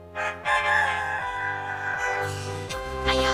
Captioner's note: crowing